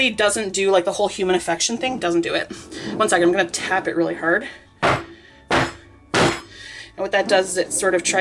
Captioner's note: thumping noises